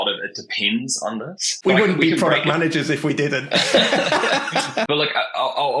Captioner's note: laughing